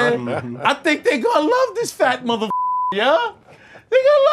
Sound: beep

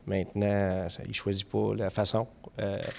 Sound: speaking French

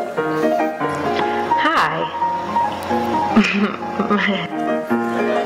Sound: laughs nervously

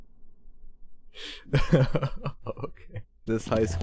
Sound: laughing

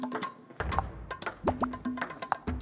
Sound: tap

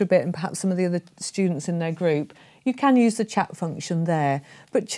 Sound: none

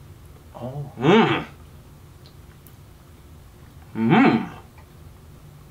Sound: both humming in enjoyment

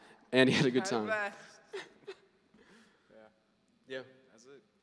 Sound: laughing

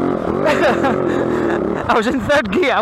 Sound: laughs

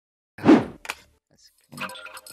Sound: swoosh

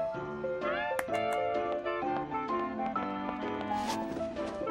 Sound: girl claps

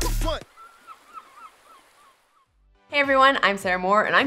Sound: birds caw

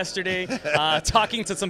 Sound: laughs

